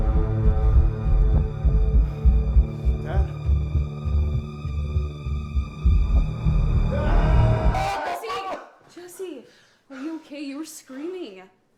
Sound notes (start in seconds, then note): 7.7 Jesse screaming Dad in his sleep. Suzette comes in screaming Jesse’s name